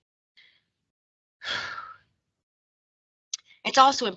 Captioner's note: sigh